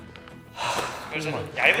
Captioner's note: sighs